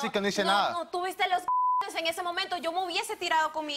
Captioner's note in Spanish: Bip